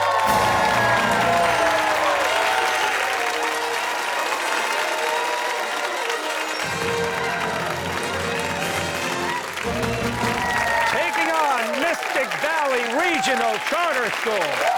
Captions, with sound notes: (fanfare) (cheers and applause) ...taking on Mystic Valley Regional Charter School!